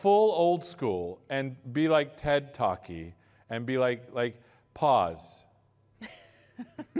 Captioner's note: laughter